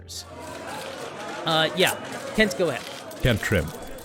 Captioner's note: reporters shouting questions